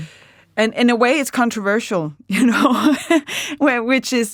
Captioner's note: chuckles